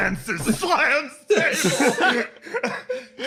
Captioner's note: slams Table; laughs